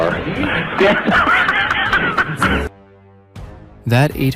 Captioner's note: both laugh